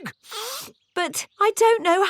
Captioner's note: sniffs